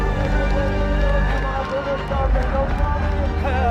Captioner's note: crowd cheers